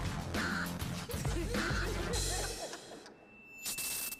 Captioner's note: laughter